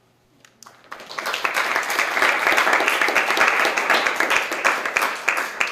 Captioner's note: applause